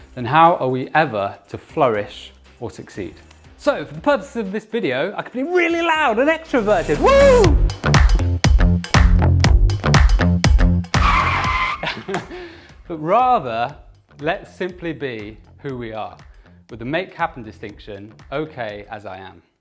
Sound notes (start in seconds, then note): 6.9 shouts; 7.9 upbeat music; 10.9 tires screech